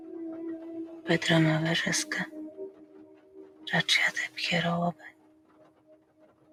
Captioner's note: speaking in another language